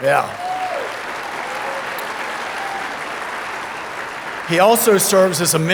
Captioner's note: audience applauding